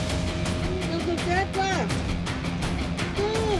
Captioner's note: shouts in native language